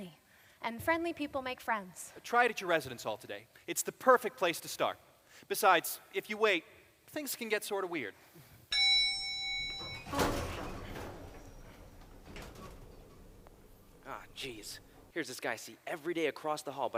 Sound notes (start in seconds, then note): 8.7 ding